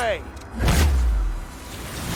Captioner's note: slowed down gunshot; woosh